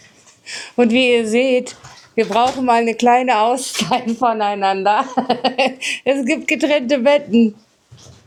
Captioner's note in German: gelächter